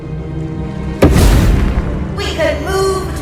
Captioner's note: poof